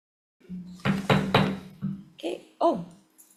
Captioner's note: gavel clanking